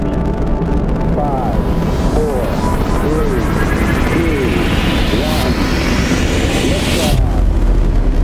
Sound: radio voice 2

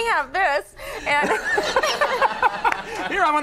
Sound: Conan laughing

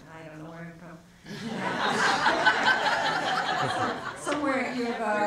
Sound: audience laughs

